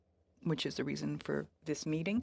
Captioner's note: speaking french